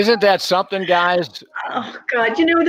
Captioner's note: gasps